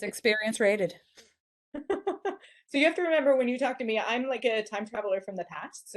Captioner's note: laughter